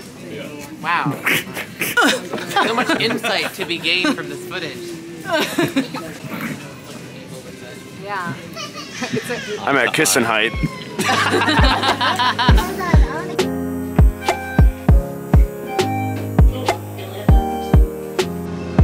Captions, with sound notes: wow *grunt* so much insight to be gained from this footage i'm at kissin height *laughter*